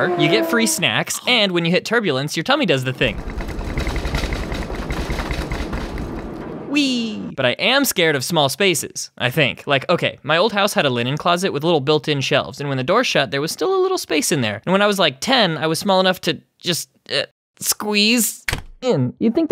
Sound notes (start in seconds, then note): 0.0 engine noise; 1.2 chomp; 2.6 turbulence; 18.6 click